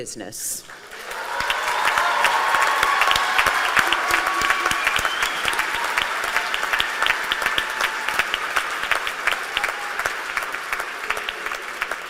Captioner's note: applause